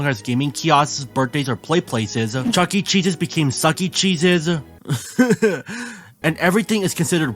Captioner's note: cries again